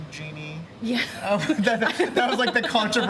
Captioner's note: laughter